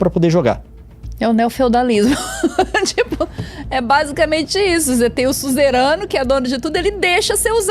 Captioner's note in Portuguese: risadas